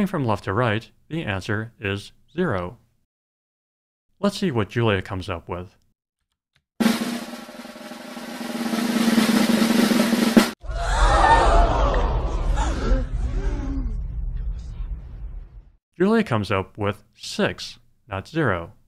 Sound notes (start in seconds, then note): 6.8 drumroll; 10.7 crowd gasping